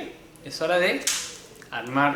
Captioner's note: cube falling noise